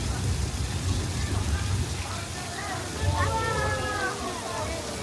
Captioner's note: water splashing